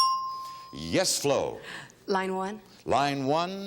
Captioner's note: bell dinging